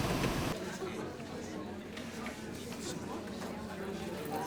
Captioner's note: students chattering